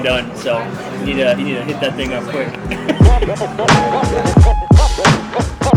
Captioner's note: laughs; hip-hop music